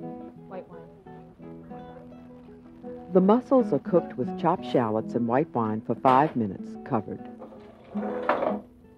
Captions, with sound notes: White wine. - [Voiceover] The mussels are cooked with chopped shallots and white wine for 5 minutes, covered.